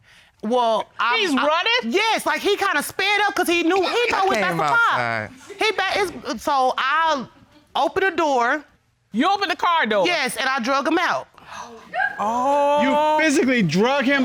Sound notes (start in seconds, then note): 11.8 woman squealing